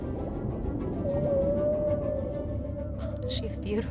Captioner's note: whale lowing